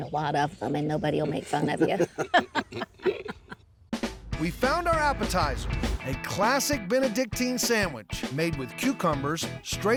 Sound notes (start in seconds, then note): 1.1 laughs